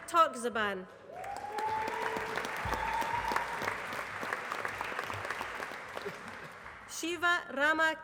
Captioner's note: applause